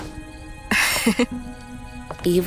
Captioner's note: Jade giggles